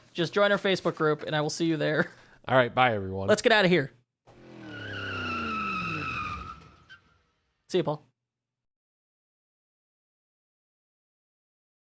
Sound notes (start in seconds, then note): 4.3 wheels screeching; 4.3 engine roaring